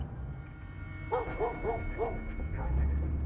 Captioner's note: dogs barking